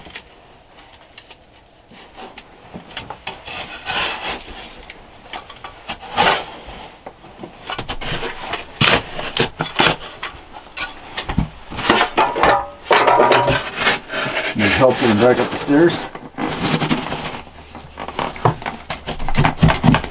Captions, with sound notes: (shovel clanging) You're helping drag up the stairs? (dirt rustling)